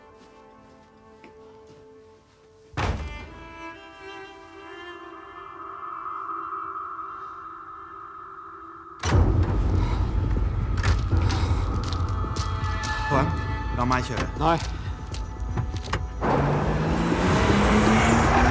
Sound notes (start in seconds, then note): 2.8 door slams